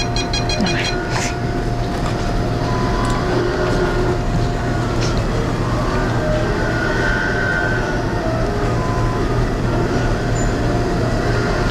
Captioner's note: inkjet printer sounds